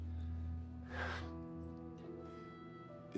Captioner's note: sighs